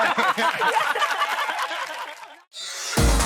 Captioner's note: laughs; cheering